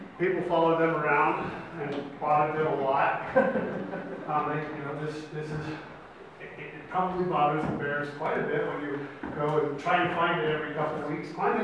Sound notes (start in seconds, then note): 3.2 audience laughs